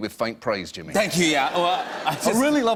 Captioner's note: laughter